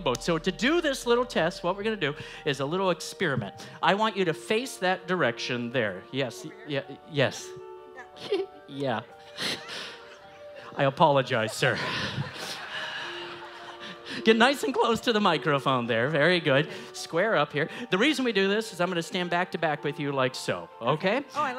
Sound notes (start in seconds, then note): 9.0 laughs; 11.9 audience laughs